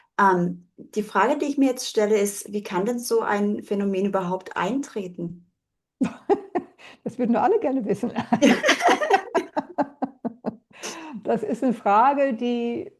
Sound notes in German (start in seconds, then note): 8.1 gelächter